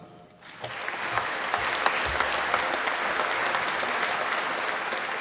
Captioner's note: applause